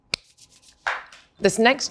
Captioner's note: claps